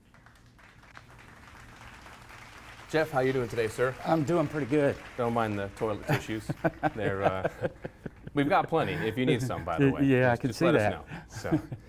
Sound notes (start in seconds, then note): 0.0 clapping; 5.8 laughing